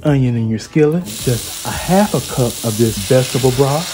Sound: onion sizzling

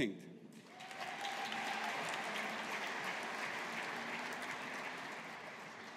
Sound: audience applauding

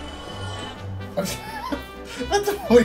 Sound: laughs

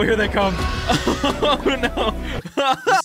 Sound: laughing

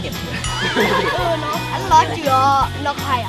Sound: laughs; speaking in Tribe language

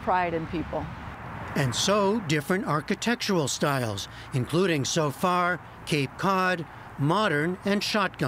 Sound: voice-over

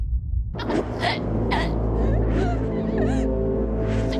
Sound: Sandra chokes

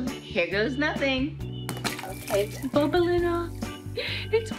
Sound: water splashing

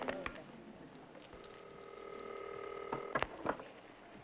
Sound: static; ringing

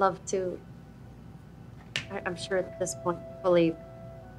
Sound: none

